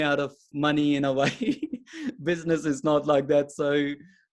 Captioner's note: chuckles